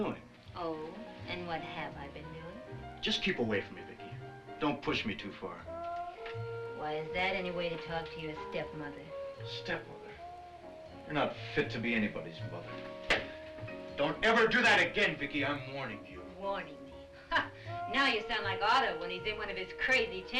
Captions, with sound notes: - Oh? And what have I been doing? - Just keep away from me, Vicki. Don't push me too far. - Why, is that any way to talk to your stepmother? - Stepmother? You're not fit to be anybody's mother. Don't ever do that again, Vicki! I'm warning you. - Warning me? (scoffs) Now you sound like Otto when he's in one of his crazy tantrums.